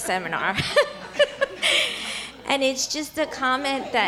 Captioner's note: laughter